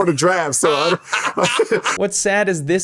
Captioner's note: laughing